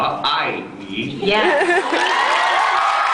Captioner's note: cheers, applause